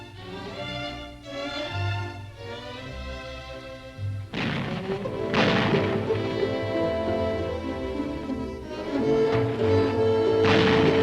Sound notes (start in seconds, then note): 4.3 bombs sound; 4.6 soft music